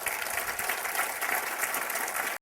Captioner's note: applause